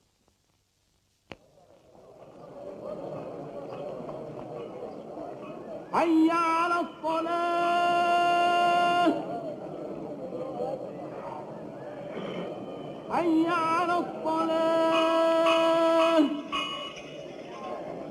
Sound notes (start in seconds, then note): 2.4 crowd chattering; 6.1 singing call to prayer